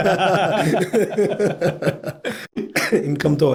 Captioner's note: laughing